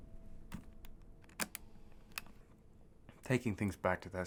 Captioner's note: tape recorder clicks